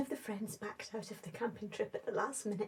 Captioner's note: none